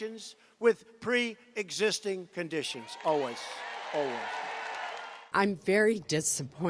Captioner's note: cheers, applause